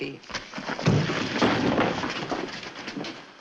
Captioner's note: blow, rattling